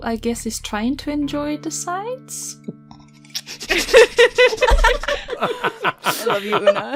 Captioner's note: laughter